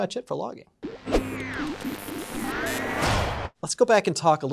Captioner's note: machine whirs